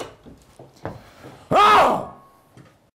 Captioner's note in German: schrei